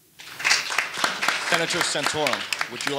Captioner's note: audience applauding